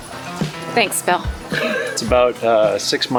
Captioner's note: laughter